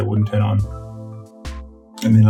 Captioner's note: chuckling